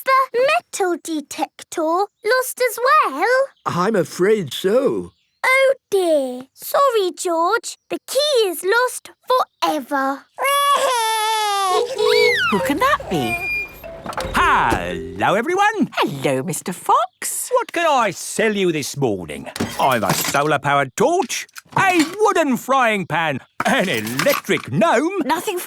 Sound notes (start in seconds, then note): 11.4 wailing; 11.7 honking